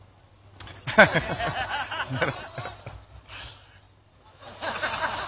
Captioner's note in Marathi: हास्य